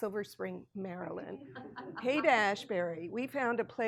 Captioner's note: people laughing